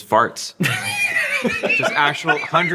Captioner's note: laughter